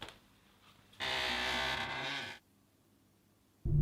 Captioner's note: footsteps and floorboards creaking; door creaks open slowly